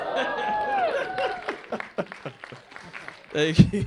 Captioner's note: applause